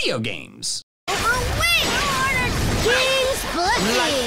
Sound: game sound

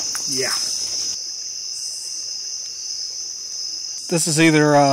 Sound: cacophony of insects

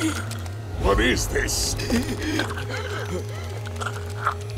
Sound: groaning

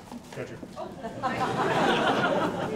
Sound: audience laughs

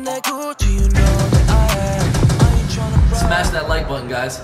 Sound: gunshots

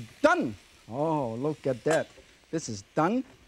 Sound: lid clinks

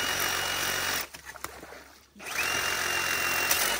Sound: skilsaw buzzing

